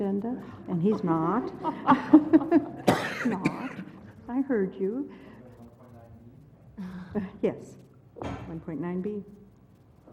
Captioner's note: laugh